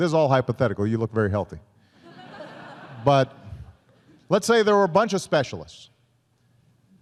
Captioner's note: laughter